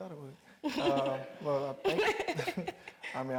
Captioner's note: Mireille laughing